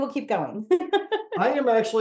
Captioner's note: laughs